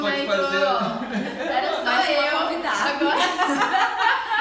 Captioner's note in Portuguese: risos; risos